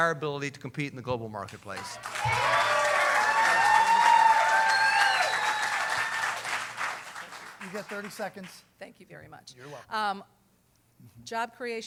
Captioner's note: cheering